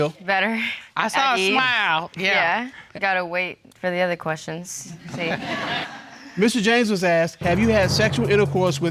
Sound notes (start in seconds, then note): 5.0 laughter